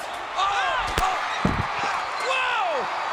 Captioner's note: crowd cheering and gasping